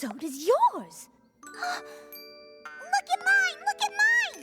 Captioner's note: gasps